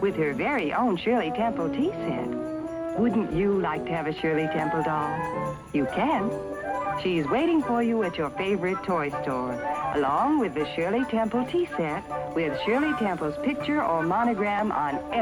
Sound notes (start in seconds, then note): none